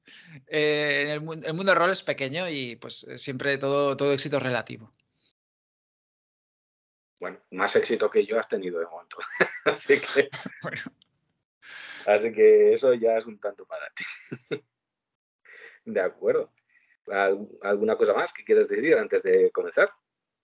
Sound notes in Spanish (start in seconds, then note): 9.1 se ríe; 13.9 ríe